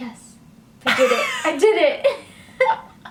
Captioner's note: laughs